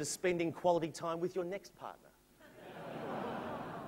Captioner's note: laughter